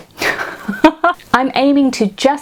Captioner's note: laughs